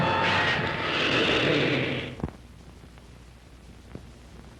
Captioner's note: scream